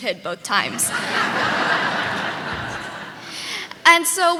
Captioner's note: audience laughing